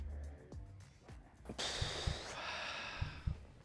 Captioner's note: sighs